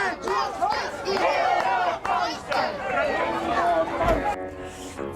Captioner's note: crowd shouts; ghastly music